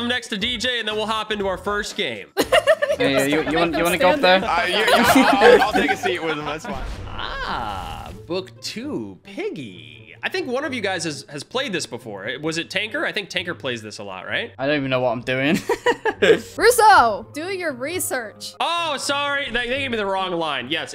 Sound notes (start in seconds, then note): 2.4 laughs